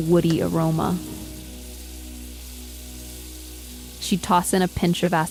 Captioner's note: sizzling